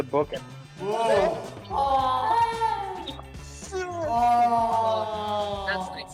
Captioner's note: satisfied filmmaker noises